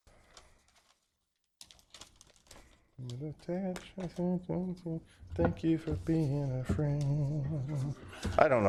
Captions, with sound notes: [Humming] Thank you for being a friend. I don't know.